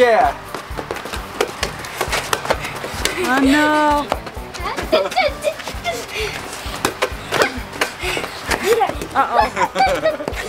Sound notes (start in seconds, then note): 4.6 dad laughing